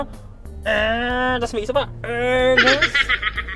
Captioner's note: errrrrr